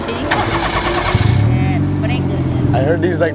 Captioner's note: foreign language